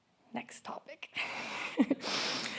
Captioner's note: laughing